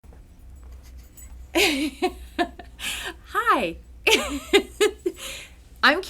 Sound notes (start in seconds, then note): 1.6 laughing; 4.6 laughing